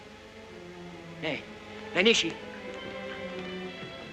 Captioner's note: speaking in Chinese; ominous music